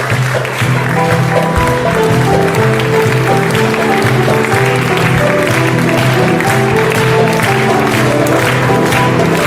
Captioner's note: applause